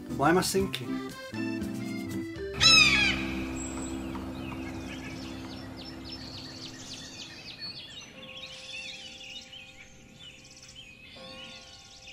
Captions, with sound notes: Why am I sinking? (Parrot squawks) (church bells)